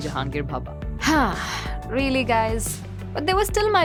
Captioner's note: sighs